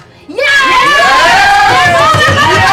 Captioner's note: cheering